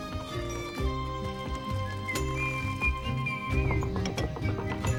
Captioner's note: boy whistles